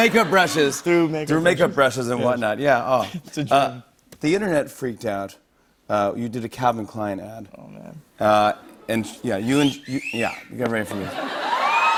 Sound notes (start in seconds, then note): 9.6 wolf-whistles; 11.3 cheers and applause